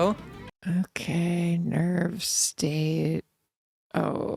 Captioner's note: tired voice